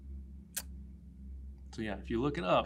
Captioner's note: kisses her teeth